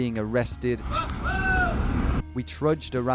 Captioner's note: man yelling